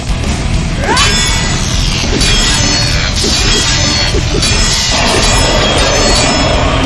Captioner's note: tense music; electricity crackling; Xu Xang grunting